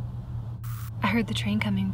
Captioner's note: static crackles